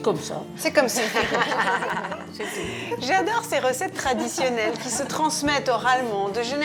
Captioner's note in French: rires